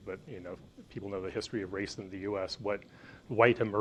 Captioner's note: none